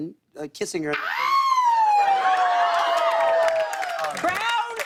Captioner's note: cheers and applause